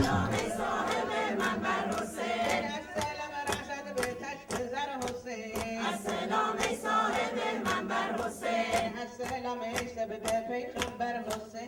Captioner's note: sound of female mourners beating their chests and chanting